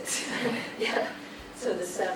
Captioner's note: laughs